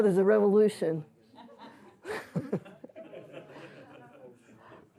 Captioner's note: laughter